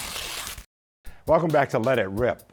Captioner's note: paper tearing